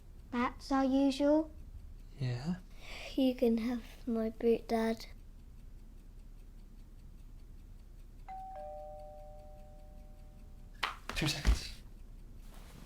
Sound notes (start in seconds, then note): 8.3 doorbell ringing